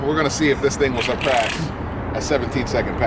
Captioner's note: laughing